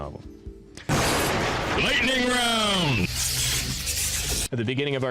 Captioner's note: intense male voice